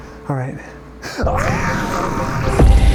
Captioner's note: very real screaming